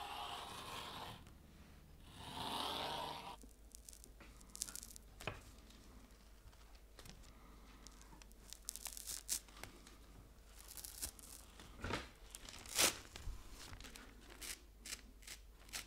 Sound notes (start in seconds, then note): 0.0 paper scratching; 4.8 paper tearing; 12.3 paper tearing